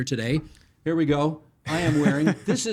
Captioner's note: chuckling